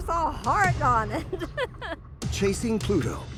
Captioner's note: laughing